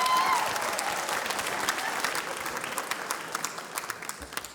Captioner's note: cheering, applause